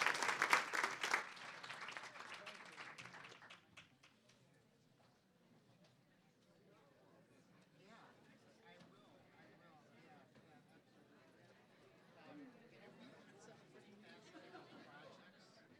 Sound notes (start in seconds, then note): 0.0 clapping; 3.4 crowd murmuring